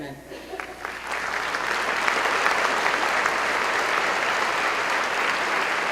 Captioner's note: applause